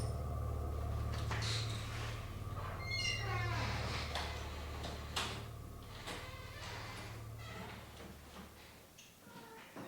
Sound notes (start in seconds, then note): 2.4 door creaking